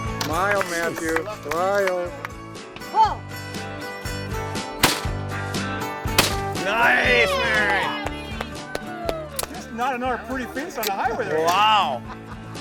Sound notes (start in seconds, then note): 0.3 voiceover; 4.8 gunfire shot; 6.8 teammates cheer; 9.5 voiceover